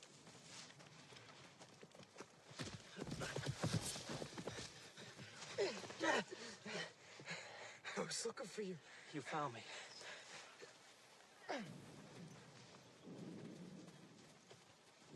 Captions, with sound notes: [BREATHING HEAVILY] I was lookin' for you. You found me.